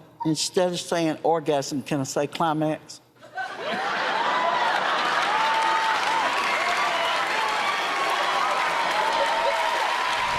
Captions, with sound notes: Well, instead of saying orgasm, can I say climax? [ Laughter ] [ Cheers and applause ]